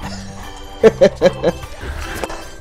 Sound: laughs

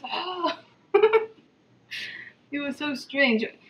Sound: laughing

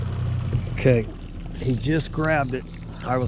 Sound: boat engine running

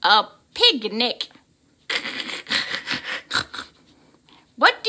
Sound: snorting laughter

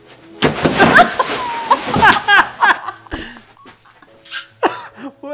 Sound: table crashes; both laugh; laughs

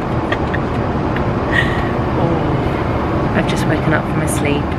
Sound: chuckling

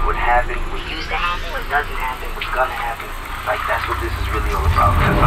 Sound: lights whirring

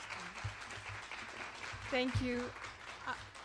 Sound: applause

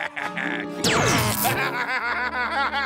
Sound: laughs maniacally; electronic blast; laughing

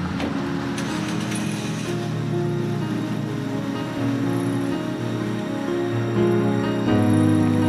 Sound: car engine start; piano music

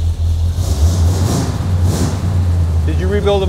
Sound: engine revs

